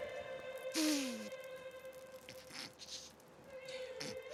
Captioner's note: hisses then groans